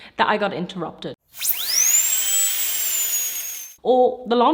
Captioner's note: drilling